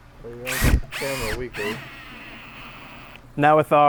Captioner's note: drill whirs